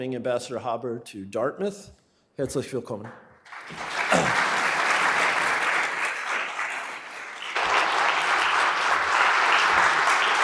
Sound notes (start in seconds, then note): 2.5 speaking foreign language; 3.4 audience applauds